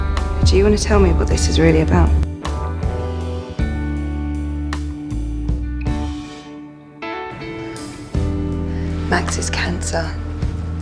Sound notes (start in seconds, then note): 9.3 voiceover